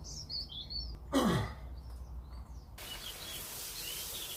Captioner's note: clears throat; water spraying